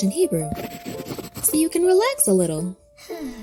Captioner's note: pencil scratching; stick person sighing in relaxation